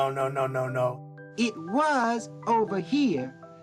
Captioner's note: soundbite of tv show, "sesame street"